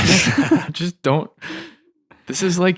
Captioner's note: all laughing